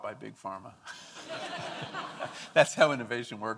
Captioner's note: audience laughing